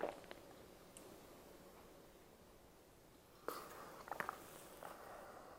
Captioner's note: swallowing sounds as drinks some water followed by silence